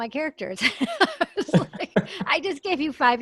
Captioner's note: laughs